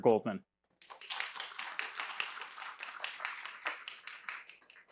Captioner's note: audience applauding